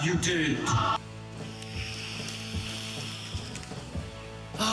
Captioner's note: snorting